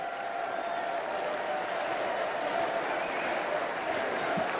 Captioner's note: applause